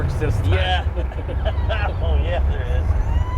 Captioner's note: laughs